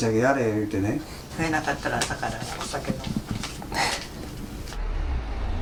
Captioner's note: laughs